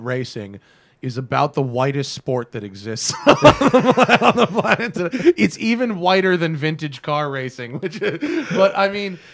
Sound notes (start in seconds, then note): 7.4 laughs